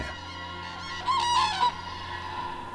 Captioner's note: crane trumpets